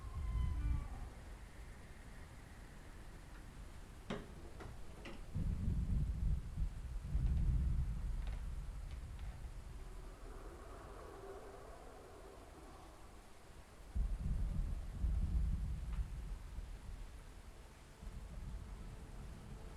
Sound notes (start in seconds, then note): 0.1 door creaking; 6.0 thunder rolling